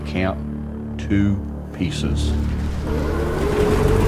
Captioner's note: beast howling